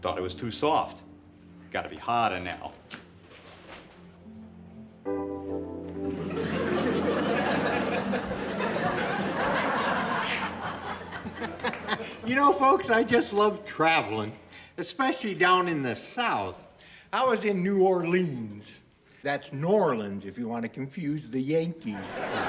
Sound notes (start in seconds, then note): 4.3 gentle groovy music; 6.0 audience laughing; 21.9 audience laughing